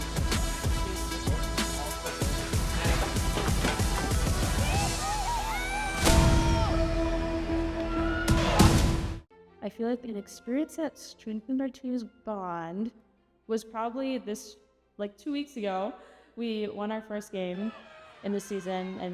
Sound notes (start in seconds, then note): 0.0 upbeat electronic music continues; 3.6 people exclaiming; 5.9 intense electronic music